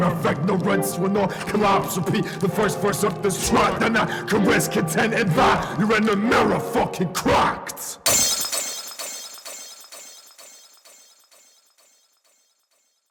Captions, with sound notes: If ignorance will not collapse repeat the first verse of this track Then I can rest, content in that your inner mirror fucking cracked *Glass Smashing*